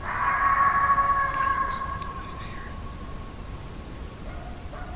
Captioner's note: animal howling